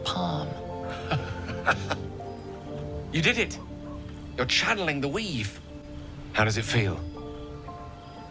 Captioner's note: laughing